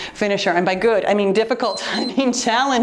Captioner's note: timer beeps